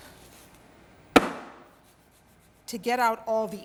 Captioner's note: bang